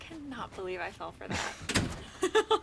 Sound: chuckles; laughing

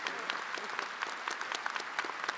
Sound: attendees applauding and cheering

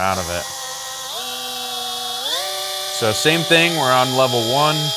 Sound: machine buzzing

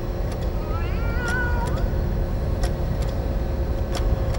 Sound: cat meows

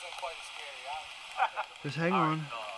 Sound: laughter

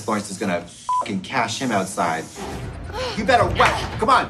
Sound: beep

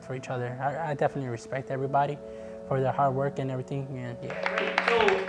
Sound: class clapping

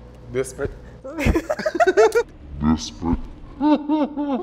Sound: laughs

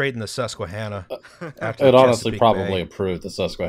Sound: laughter

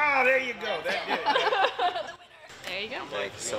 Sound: woman laughing

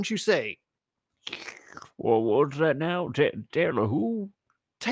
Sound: slurp

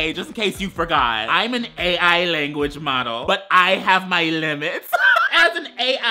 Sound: laughs

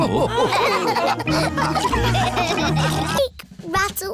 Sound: all laughing

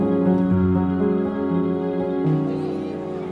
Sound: crowd noise

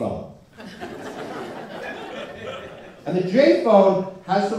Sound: laughter

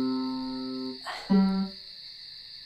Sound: grunt

